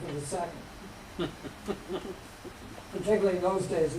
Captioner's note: laughter